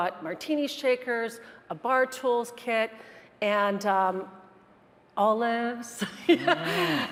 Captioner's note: laughs